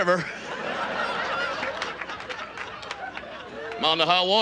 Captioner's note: audience laughs